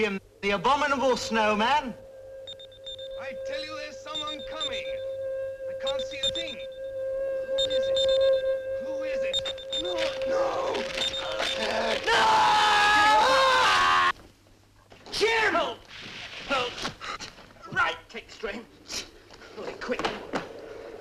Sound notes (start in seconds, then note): 11.1 Jim screams